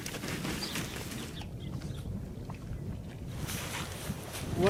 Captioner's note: hooves rustling